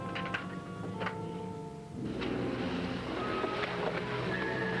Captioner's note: door rattling; water sloshing